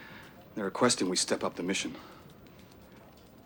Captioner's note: none